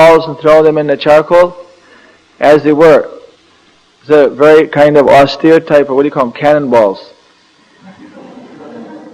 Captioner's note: laughter